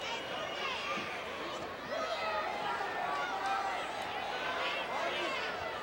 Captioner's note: audience cheering continues